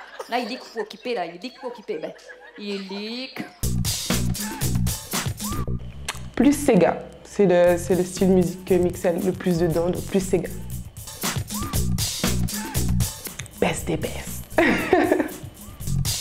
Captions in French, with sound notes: Plus séga, c'est le style de musique dans lequel j'excelle, donc Séga !! Best des best ! [RIRE]